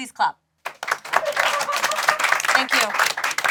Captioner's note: group clapping